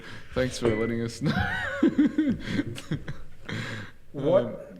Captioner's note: giggles